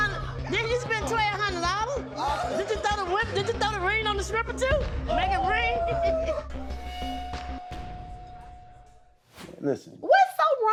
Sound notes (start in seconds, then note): 5.8 laughs